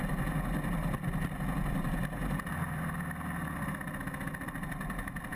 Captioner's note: motorbike engine puttering